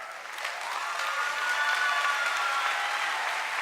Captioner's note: cheering and applause